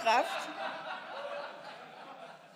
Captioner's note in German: Lachen